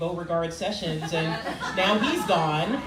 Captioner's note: crowd laughing